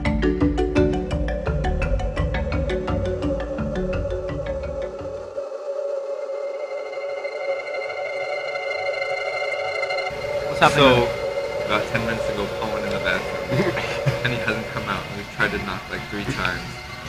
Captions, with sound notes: (light music fades out) (eerie sound fade in) So, about 10 minutes ago, Paul went in the bathroom And he hasn't come out, we've tried to knock like three times